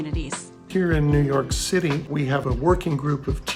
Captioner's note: male Voice